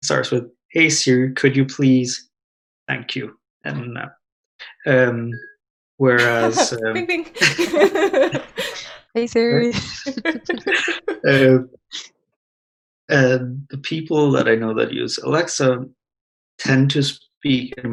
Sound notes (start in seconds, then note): 6.2 laughs; 9.5 all laugh